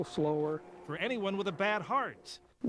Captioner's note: voiceover